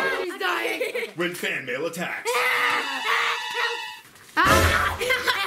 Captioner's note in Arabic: صراخ